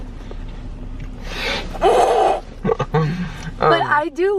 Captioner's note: laughter